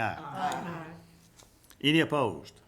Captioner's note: group chanting